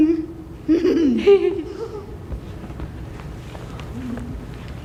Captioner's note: laughter